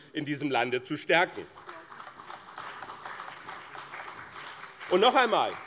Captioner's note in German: Beifall bei dem BÜNDNIS 90/DIE GRÜNEN und der CDU